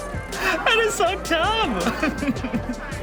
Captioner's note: chuckles